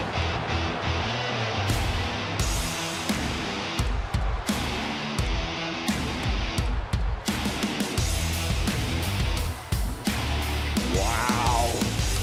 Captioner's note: crowd cheers